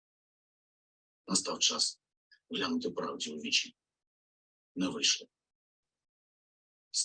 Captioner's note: Zelensky speaking in foreign language